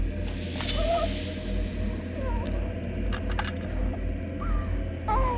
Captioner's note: Christine whimpering